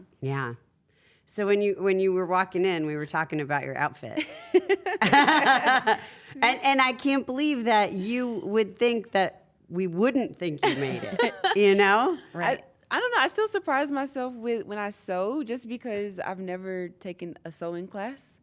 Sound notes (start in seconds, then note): 4.3 laugh